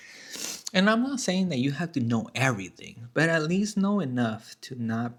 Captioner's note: snorts